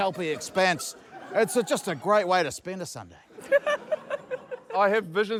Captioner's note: laughter